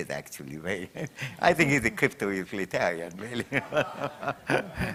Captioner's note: chuckles; laughter